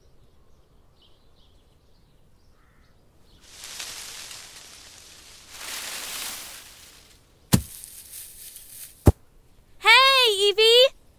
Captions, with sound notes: *tree rustling* Heyyy Eevee!!